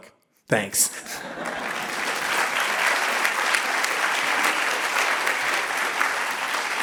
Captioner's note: audience laughing and clapping